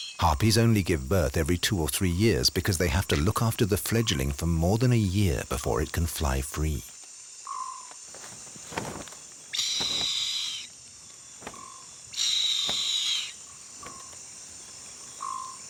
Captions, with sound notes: Harpies only give birth every two or three years because they have to look after the fledgling for more than a year before it can fly free. (eagles screeching)